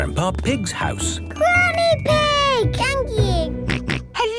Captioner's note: George snorting; snorting